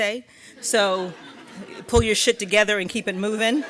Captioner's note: audience laughing